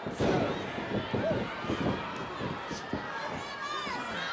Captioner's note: floor banging